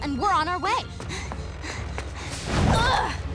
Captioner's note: panting; grunting